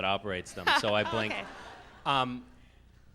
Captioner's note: laughs